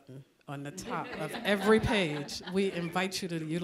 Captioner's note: audience chuckling